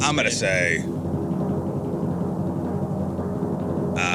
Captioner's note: wind blowing